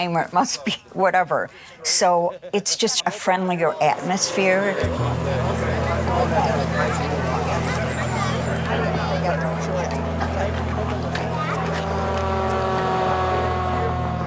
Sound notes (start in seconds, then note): 3.9 pensive music; 5.0 people chattering